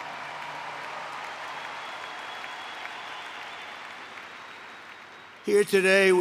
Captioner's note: applause